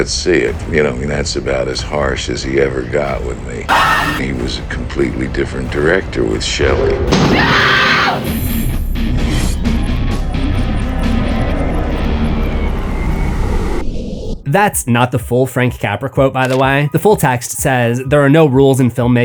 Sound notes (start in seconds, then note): 7.1 screaming